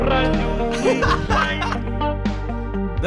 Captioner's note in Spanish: riendo